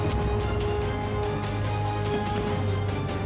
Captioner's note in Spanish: Disparos